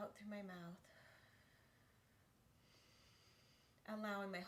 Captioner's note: breathes deeply